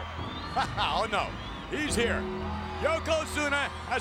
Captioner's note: chuckles